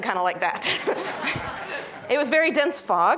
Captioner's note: laughter